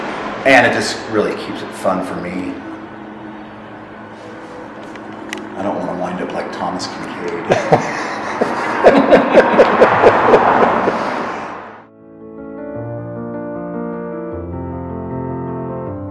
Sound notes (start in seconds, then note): 13.8 laughs